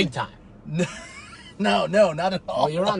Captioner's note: laughing